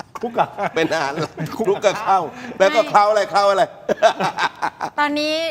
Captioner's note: laughs; laughs